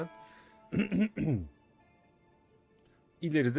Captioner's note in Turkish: boğazını temizler; öksürme